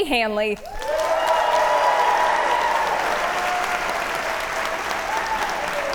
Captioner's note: audience cheer and applaud